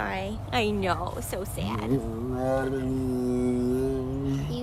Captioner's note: groaning